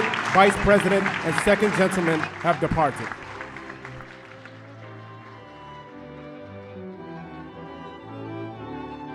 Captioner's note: applause